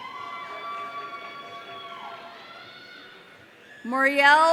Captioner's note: audience cheering